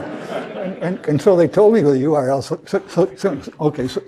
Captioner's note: laugh